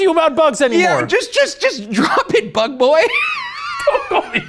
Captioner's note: laughs